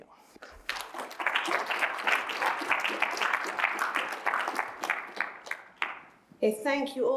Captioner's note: applause